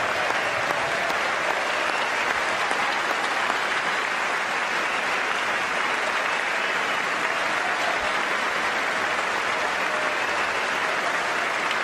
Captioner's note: applause